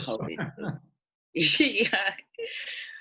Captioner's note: chuckles; laughing